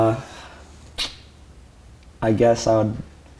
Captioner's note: clicks tongue